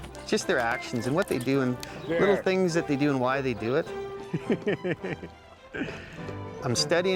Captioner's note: laughs